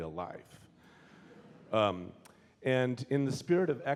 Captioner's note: audience laughing